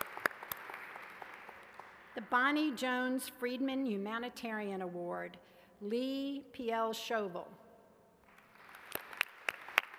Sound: applause

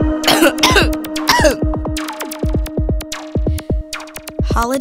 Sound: coughing

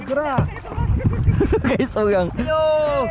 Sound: laugh

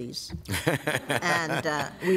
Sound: laughter

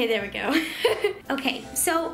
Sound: laughing

